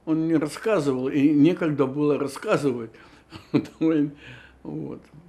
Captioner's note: laughing